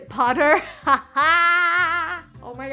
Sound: laughs

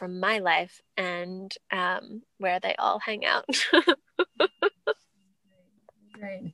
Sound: laughs

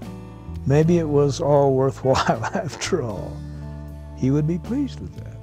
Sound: laughing

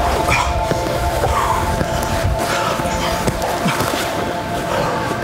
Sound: breathing heavily

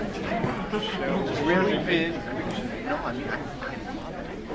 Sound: speaking faintly; speaks faintly

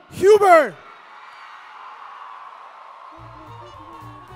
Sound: cheering

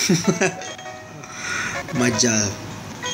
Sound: inhales

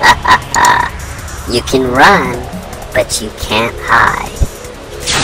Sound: laughs

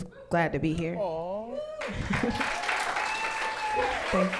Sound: cheering

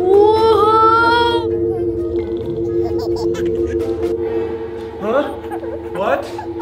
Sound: action music; baby laughing

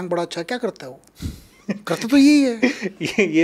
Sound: laughs

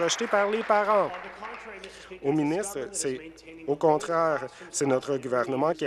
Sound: applause

